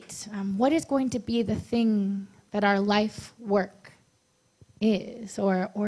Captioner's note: none